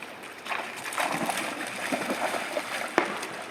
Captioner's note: water sloshing